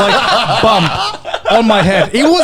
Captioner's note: laughing